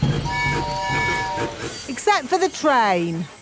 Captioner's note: train tooting